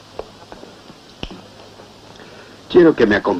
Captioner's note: clicks fingers